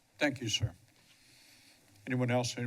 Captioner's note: pause